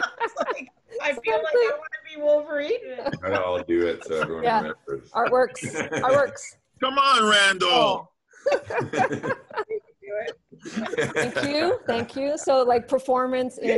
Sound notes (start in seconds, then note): 2.9 laughter; 8.3 laughter